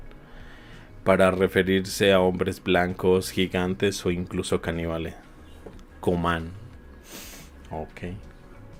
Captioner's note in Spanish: resoplido